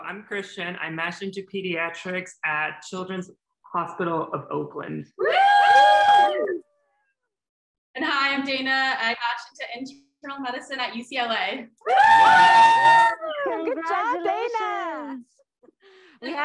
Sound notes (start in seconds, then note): 5.2 cheering; 11.8 cheering